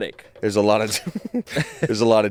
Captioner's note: laughs